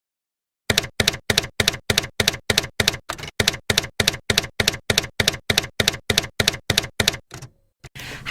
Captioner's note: typewriter keys clacking